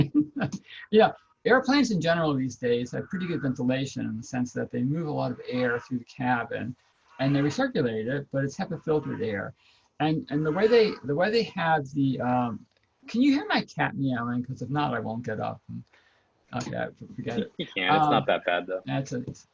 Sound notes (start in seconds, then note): 1.8 cat meows